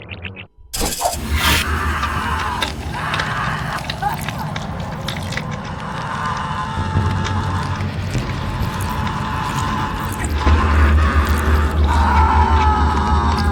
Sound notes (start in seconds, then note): 1.1 Phil screaming; 1.1 nails stab; 2.5 flesh tears and squelches; 5.0 Phil screaming; 5.0 entrails squishing